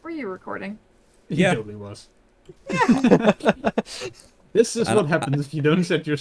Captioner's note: laughter